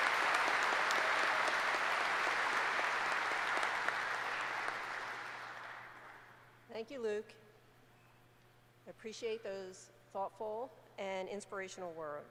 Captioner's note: applause